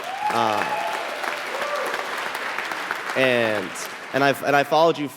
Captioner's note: cheering and applauding